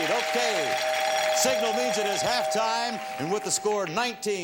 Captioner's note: bell rings